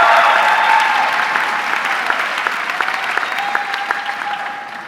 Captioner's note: audience clapping